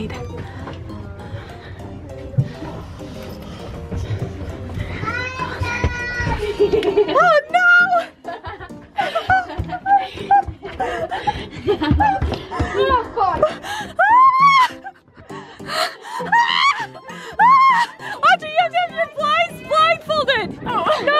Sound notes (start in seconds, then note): 0.3 happy upbeat music; 5.1 kid screaming; 8.6 laughing; 14.1 laughing and screaming